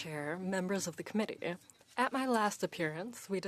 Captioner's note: speaking French